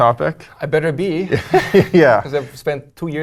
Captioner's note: laugh